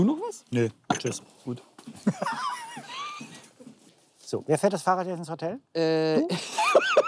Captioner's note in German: lacht; lacht